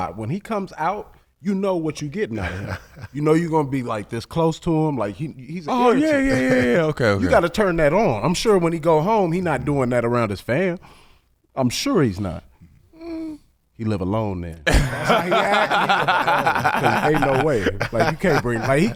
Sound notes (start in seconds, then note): 12.9 hums doubtfully; 14.6 laughing